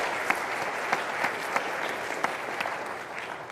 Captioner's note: applause